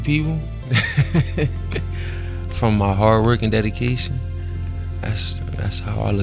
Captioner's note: laughs